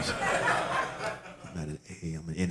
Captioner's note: audience laughing